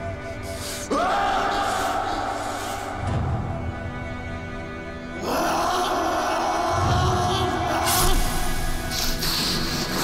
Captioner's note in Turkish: Bağırarak Kılıç Saplıyor